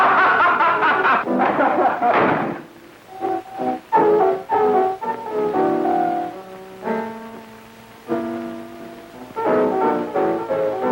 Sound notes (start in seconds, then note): 0.0 laughing; 1.4 door slams